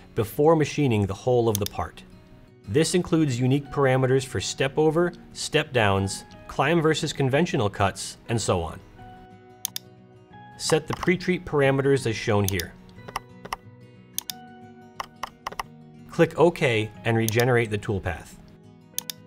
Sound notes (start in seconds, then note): 13.2 keyboard clicks